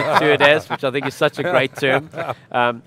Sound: all laughing

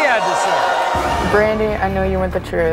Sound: audience booing

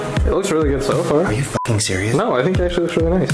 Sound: beep

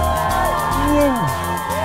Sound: crowd cheering; Chewbacca sound

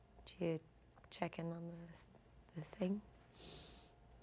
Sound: none

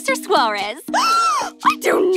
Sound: gasping

